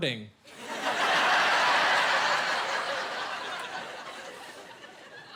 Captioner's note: laughing